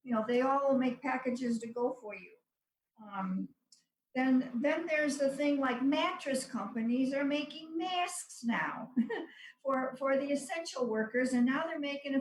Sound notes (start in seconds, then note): 8.9 laughs